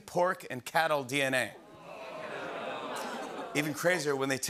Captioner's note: audience groans